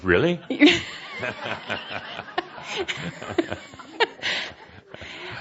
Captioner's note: laughter, chuckling